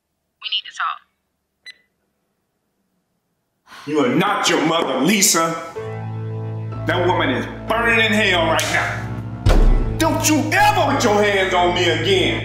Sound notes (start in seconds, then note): 1.6 beep; 8.6 smack